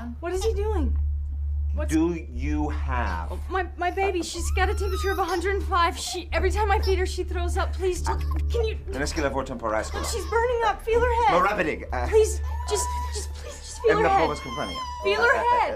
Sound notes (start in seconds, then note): 6.0 woman argues with staff speaking foreign language; 11.6 speaking foreign language